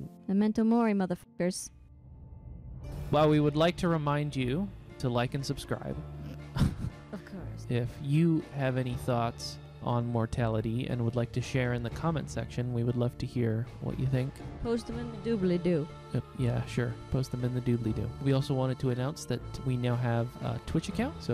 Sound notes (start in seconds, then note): 6.0 snort; 6.3 laughing